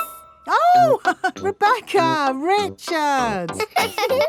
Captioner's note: laughs; both laughing; chuckles